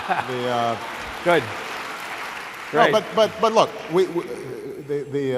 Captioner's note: laughter and applause